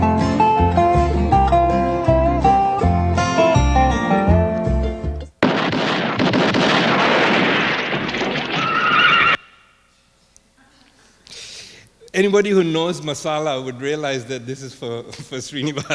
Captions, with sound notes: (guns firing) (horse neighing) - Anybody who knows Masala would realize that this is for Srinivas.